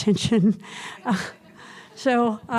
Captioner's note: audience chuckles